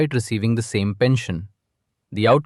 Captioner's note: thoughtful